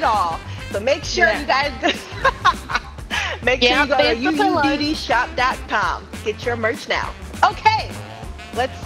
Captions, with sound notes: We got it all. But make sure you guys. [LAUGH] Make sure you go to uuddshop.com, get your march now. Okay.